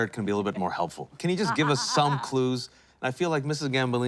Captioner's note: laughs